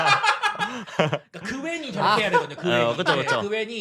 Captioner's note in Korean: 웃음